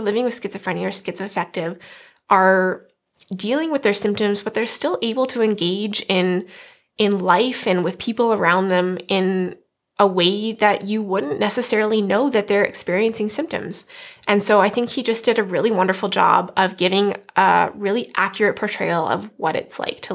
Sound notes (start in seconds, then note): none